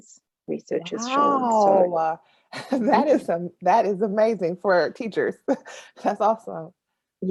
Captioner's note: exclamation; laughs